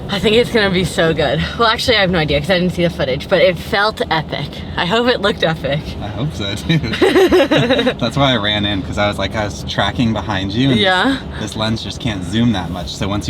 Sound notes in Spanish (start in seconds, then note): 6.9 los dos ríen